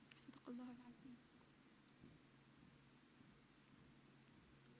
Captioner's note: speaks in foreign language